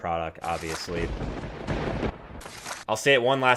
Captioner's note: lightning strike